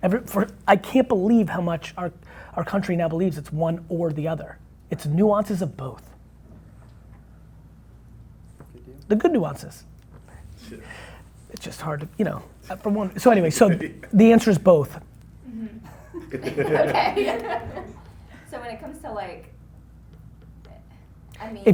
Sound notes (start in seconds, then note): 15.4 laughing